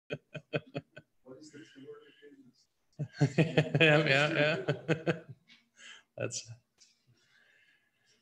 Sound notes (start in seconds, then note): 0.1 laughs; 5.8 laughs